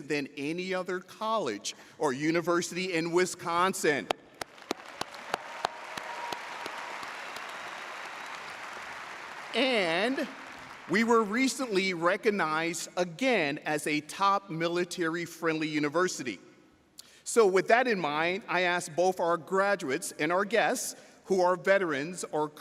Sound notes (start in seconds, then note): 4.3 audience applauds